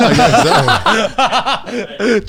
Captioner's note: all laughing